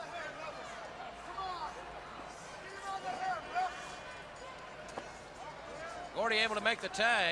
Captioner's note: crowd chatter